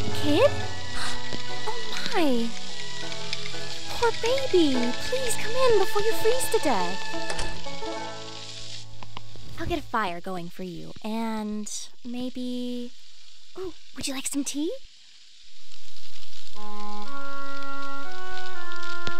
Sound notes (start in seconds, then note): 0.9 gasps; 1.0 kid shivering